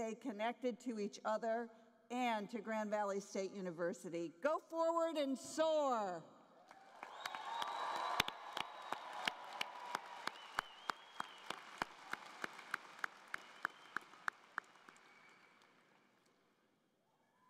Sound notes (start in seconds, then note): 6.6 cheering and Applause